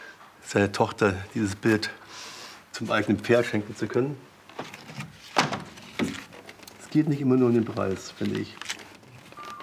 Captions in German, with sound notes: seiner Tochter dieses Bild zum eigenen Pferd schenken zu können ... (Klappern) Es geht nicht immer nur um den Preis, finde ich.